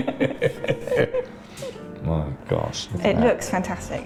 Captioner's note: laughing